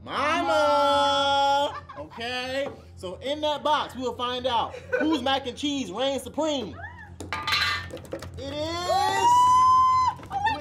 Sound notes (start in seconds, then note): 7.4 hands pattering; 8.4 Tia squeals